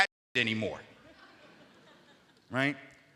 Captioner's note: audience Laughing